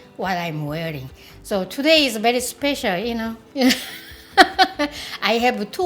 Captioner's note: laughs